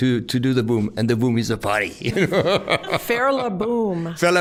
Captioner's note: laughing